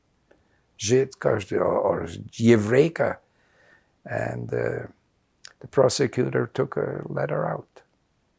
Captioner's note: non-english